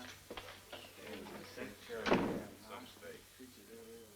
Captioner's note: prisoners murmuring